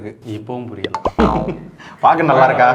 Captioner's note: laughter